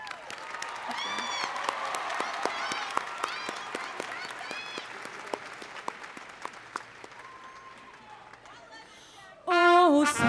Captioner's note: cheering